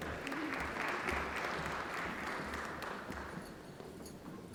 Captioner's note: applause